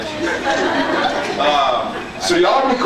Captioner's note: scattered laughs